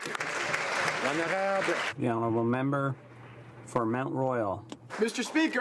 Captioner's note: some Applause